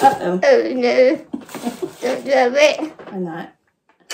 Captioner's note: laughing